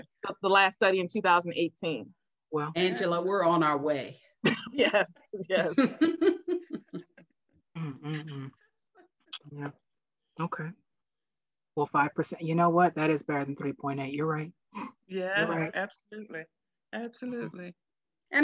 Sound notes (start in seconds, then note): 5.5 laughing; 5.6 chuckles